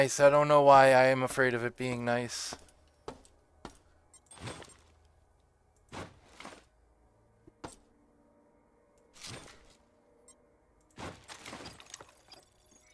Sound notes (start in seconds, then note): 5.9 footsteps; 8.9 footsteps